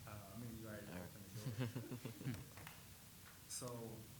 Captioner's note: attendees laughing